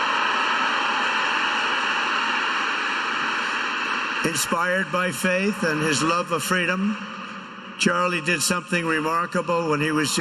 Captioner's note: applause